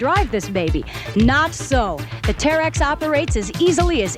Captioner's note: chuckles